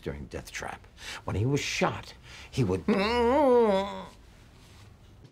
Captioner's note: groans